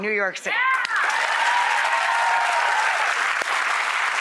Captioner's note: applause